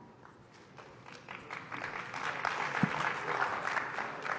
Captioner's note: applause